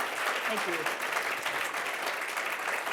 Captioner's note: applause